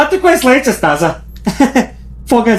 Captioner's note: laughs